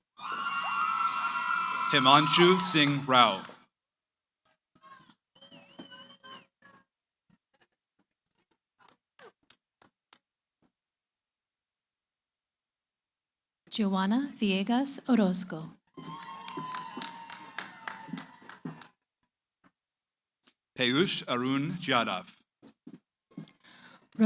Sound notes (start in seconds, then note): 16.0 cheering